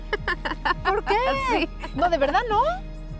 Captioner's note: laughing; speaking Spanish